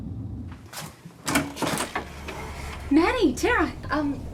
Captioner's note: door clicks